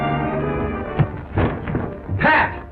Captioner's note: thuds